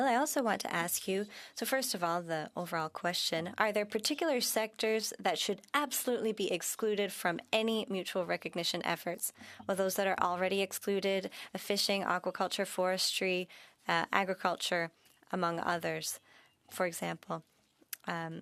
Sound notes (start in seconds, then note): 2.4 speaking French